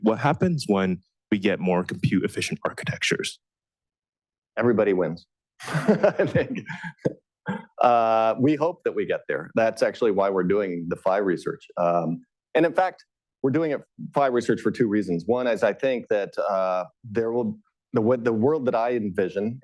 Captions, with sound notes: what happens when we get more compute-efficient architectures? Everybody wins. [LAUGHS] We hope that we get there. That's actually why we're doing the Phi research. And in fact, we're doing Phi research for two reasons-- one is I think that with the world that I envision,